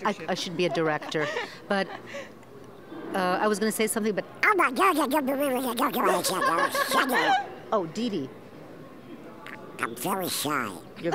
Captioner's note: does duck impersonation